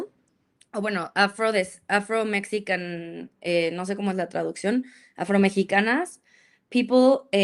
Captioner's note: speaks in Spanish